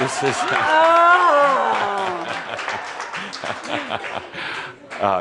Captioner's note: some applause